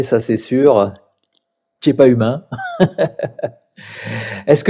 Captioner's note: laughs